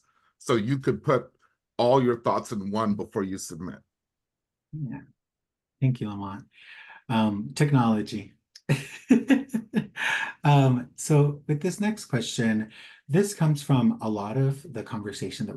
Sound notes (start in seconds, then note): 8.7 laughs